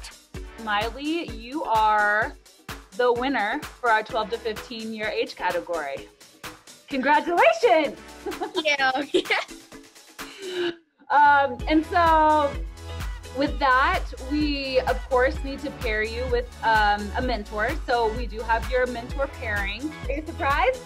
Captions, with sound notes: Maile, you are the winner for our 12 to 15-year age category. Congratulations! Thank you! (Laugh) And so with that we of course, need to pair you with a mentor. We do have your mentor pairing. Are you surprised?